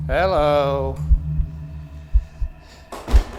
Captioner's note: heart beating; eerie music